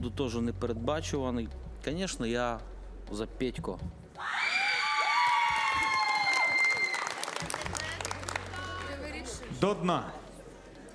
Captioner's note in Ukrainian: оплески